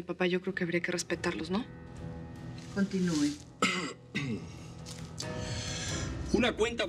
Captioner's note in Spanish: carraspea